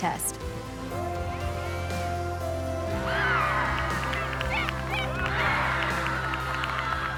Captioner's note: bright music; crowd cheers